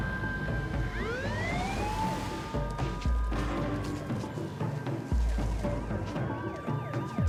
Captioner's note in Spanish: sonido de sirenas